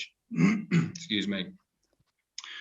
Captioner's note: clears throat